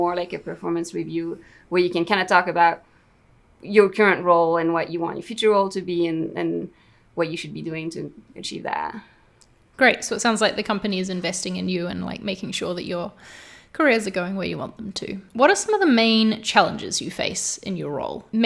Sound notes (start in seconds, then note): none